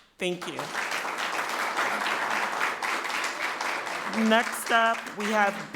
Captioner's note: people clapping